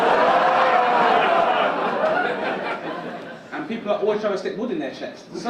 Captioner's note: audience laugh